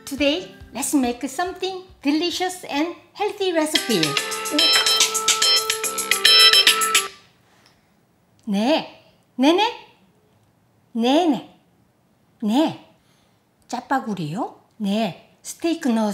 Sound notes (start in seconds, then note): 3.7 phone ringing; 8.5 speaking in Korean